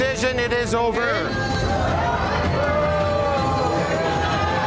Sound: patrons protesting

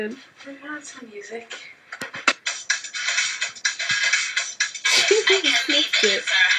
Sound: laugh

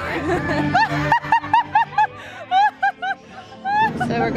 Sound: hysterical laughter; laughter

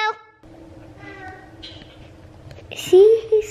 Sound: baby talk

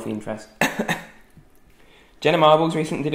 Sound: coughing

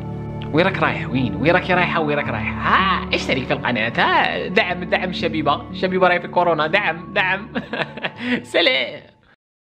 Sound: giggles

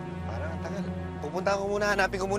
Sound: none

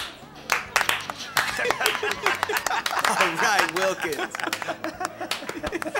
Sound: all applauding and laughing

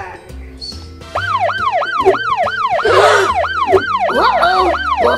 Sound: siren blares

